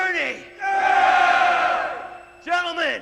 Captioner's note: rebels cheering